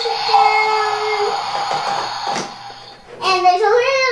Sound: water squirting

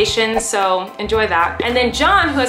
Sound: air whooshes

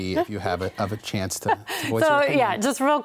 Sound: laughs

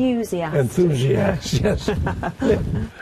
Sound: laughs

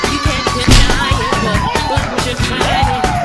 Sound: slap

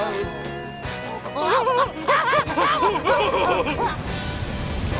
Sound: laughing

